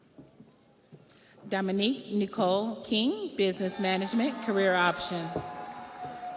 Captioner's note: audience applauds; audience cheers